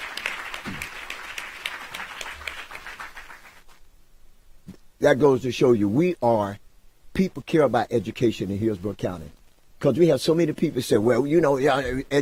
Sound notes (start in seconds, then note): 4.6 applause